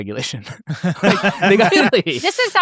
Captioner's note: laughs